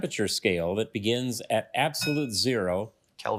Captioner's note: bell dings